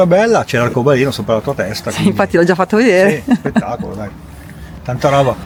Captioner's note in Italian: risate